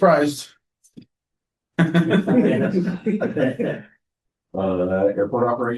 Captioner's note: laughter